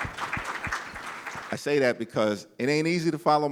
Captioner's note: applause